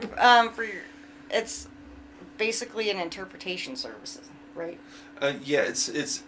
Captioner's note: laughs